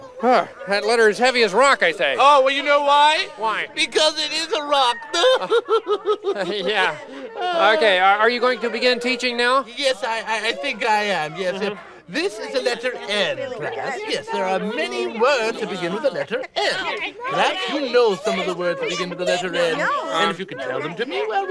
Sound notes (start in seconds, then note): 5.9 laughs